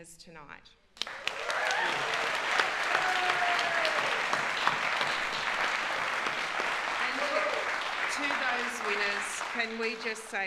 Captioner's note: applause